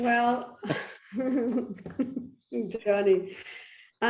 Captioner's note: all laughing